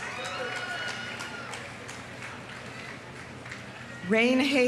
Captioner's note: audience applauding; audience cheering